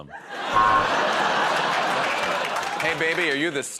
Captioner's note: laughter